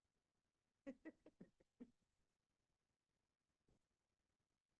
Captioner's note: laughing